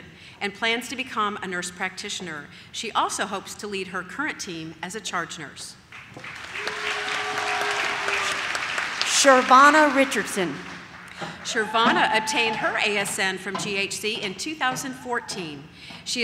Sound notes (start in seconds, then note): 5.9 audience claps